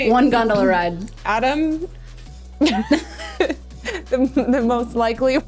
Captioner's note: laughing